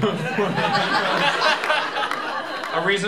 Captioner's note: laughter